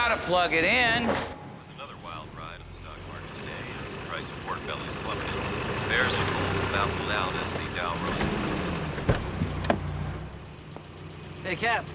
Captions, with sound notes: - We love you, too. - You gotta plug it in! (man on radio) -It was another wild ride on the stock market today as the price of pork bellies plummeted. Bears and bulls toppled down as the Dow... (radio shuts off)